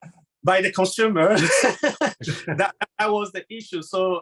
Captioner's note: laughing